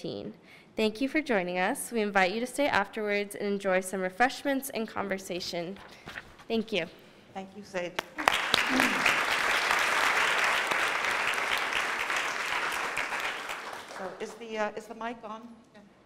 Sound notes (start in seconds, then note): 8.0 applause